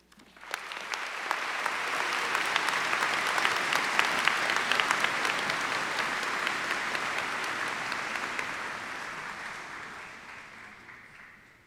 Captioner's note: applause